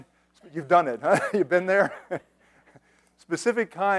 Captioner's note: laughs